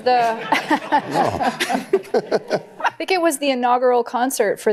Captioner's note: laughter